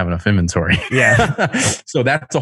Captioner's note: laughs